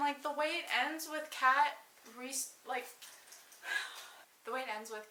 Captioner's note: sighs